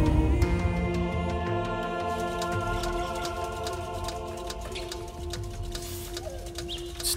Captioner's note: view scope clicking softly